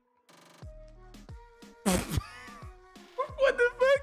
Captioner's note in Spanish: ríete